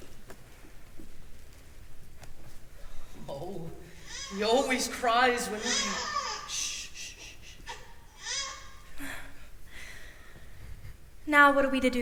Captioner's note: baby cries